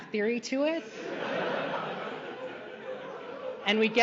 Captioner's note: laughter